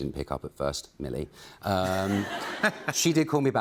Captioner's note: laughter